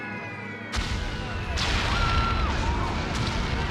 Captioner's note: bombs booming